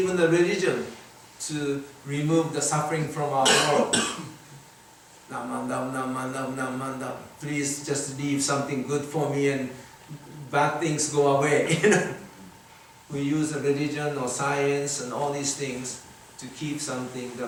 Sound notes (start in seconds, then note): 3.4 audience coughs; 4.9 chants; 11.6 chuckles